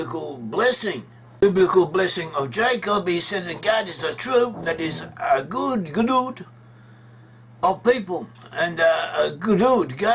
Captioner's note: in Hebrew